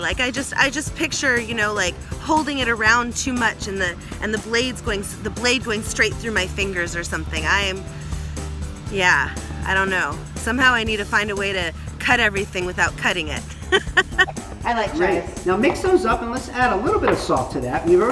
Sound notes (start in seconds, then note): 13.3 laughs; 15.0 upbeat music